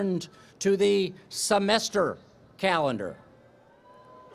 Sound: cheering

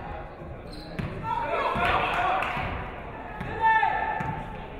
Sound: audience cheering

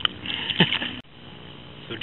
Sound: laughter

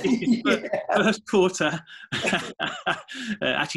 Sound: laughing

